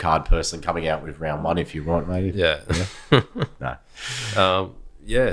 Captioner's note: laughs